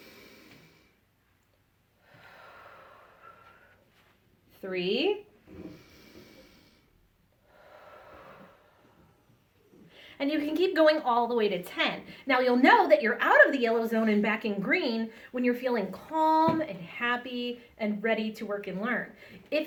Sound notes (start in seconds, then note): 0.2 breathes in and out; 5.3 breathes in and out